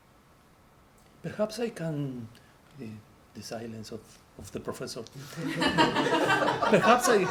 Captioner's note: laughter